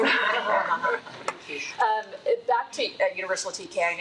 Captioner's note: attendees laughing